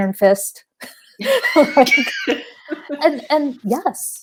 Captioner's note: laughing